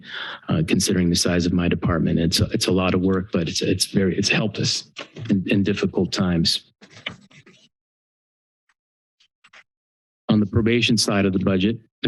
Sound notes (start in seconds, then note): 6.5 pause